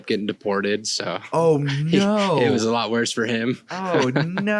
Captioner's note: laughs